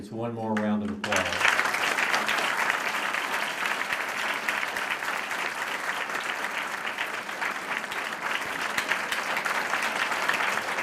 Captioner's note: applause